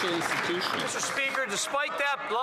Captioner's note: cheering and Applause